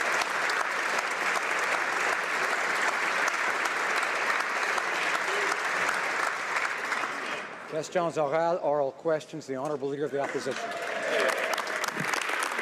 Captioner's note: applause